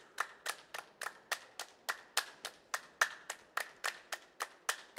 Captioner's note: hands clapping